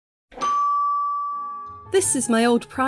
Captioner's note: ding